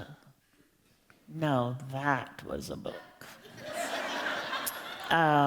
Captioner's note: laughter